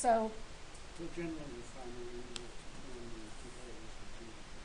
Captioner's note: man speaking